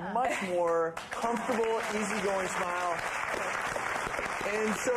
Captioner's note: audience applauding